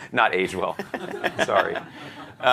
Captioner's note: laughter